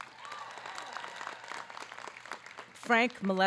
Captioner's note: audience clapping